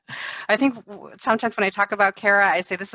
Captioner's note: laughs